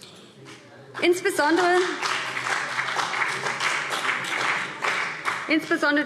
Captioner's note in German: Beifall